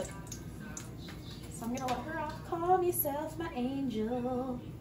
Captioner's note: sing-song